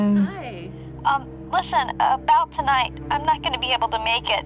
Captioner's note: on phone